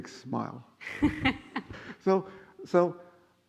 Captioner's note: laughing